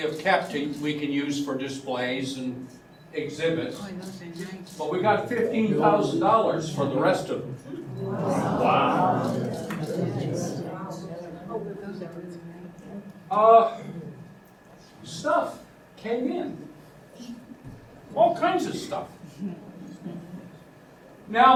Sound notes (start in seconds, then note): 10.1 audience murmurs